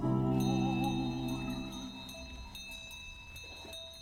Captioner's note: sheep bells clanking